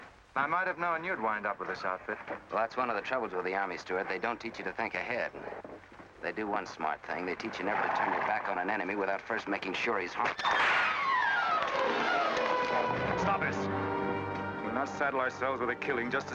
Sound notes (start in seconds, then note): 10.3 whip snaps; 11.0 suspenseful music